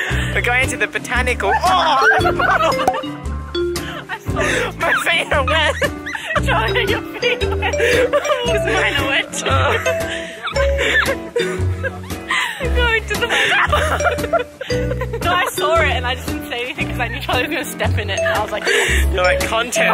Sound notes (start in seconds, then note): 3.6 laughing a lot; 9.3 laughing; 11.2 laughing; 13.1 mocking